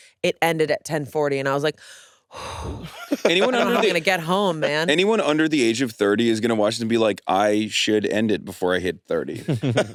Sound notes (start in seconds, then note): 2.4 exhales